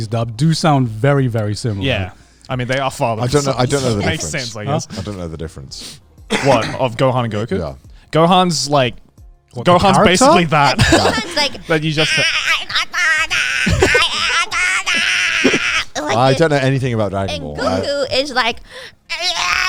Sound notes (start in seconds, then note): 11.9 groaning